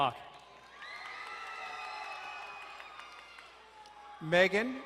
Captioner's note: crowd cheering and applauding